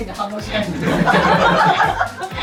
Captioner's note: laughs